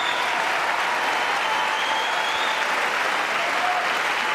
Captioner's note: cheers and applause